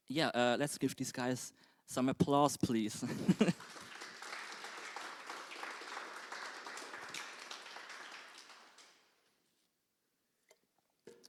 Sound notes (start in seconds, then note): 3.0 applause